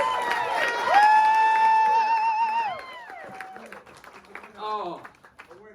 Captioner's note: cheers and applause